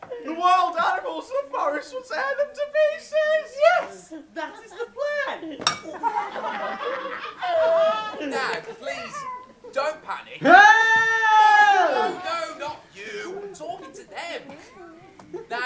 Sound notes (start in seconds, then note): 5.6 clang; 10.4 children screaming